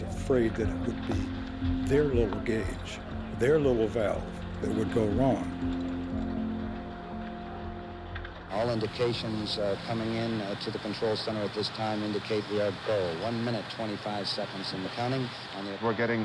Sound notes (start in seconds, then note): none